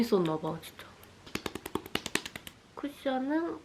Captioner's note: asmr